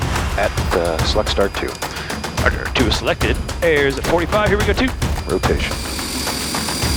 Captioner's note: radio Communication